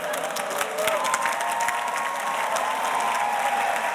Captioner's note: audience applauding